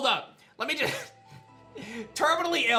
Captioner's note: giggles